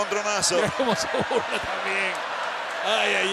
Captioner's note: laugh